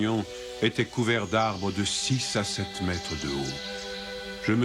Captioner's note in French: Chant d'oiseaux